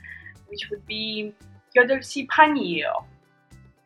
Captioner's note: speaking in Korean